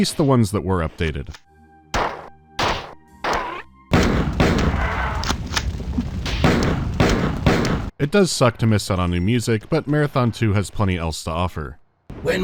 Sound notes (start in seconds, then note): 1.9 pow-pow-pow; 3.9 bang-bang; 6.3 bang-bang-bang